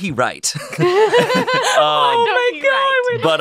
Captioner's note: all laughing